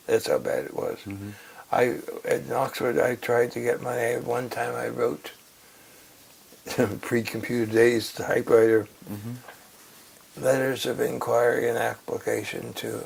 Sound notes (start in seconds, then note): 6.3 laugh